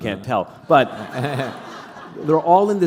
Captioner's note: laughter